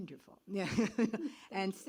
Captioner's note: laughs